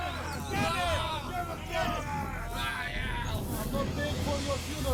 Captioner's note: men shouting